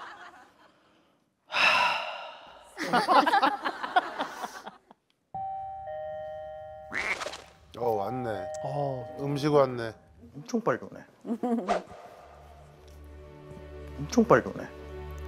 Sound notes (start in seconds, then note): 1.5 sighing